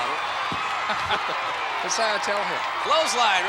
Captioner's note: laughs